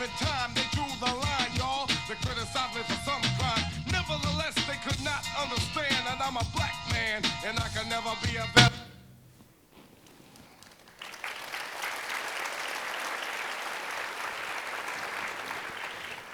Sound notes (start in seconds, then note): 10.5 audience applauding